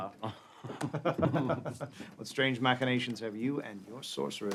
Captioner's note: laughs